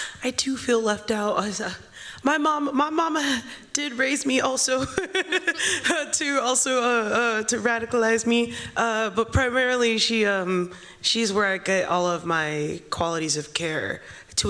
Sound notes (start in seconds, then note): 4.8 chuckles